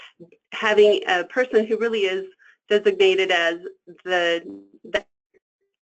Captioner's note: static